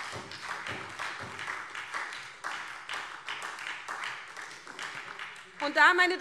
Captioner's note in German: Beifall SPD